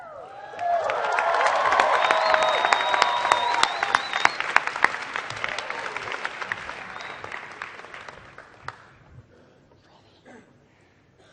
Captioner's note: applause